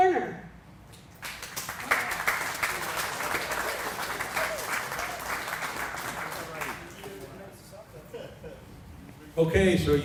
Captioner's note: applause